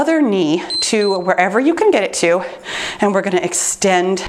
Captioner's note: timer beeps